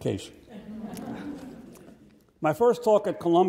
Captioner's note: audience laughs